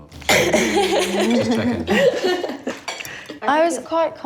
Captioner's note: laughs